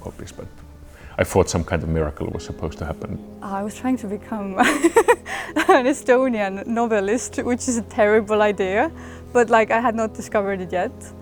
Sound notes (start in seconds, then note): 4.6 laughs